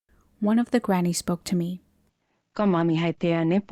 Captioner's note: none